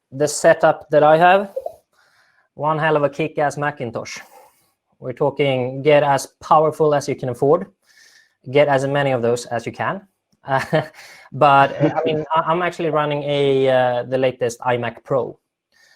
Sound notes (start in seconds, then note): 11.4 laughing